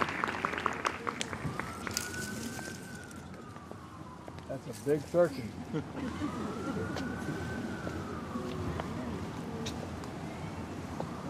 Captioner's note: applause